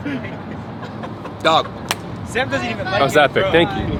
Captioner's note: clap